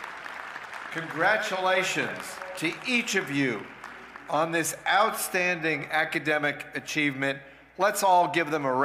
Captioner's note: cheers and applause